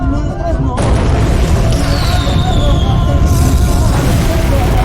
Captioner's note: explosions